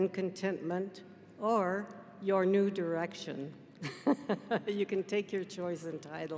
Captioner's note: giggles